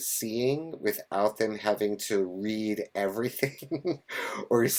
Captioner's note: laughs